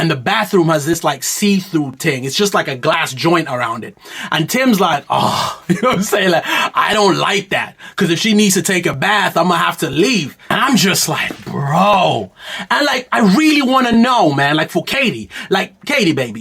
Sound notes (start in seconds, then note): 5.0 groans